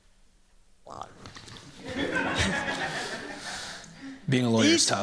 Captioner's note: laughter